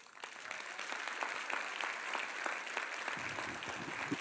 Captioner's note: audience applauds